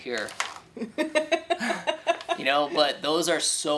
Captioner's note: chuckles